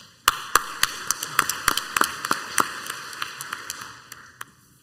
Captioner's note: crowd applauds